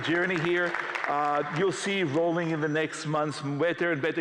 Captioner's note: applause